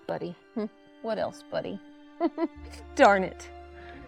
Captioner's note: chuckles